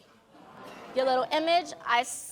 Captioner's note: audience gasping